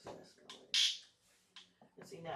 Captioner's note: zap